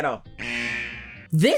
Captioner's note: buzzer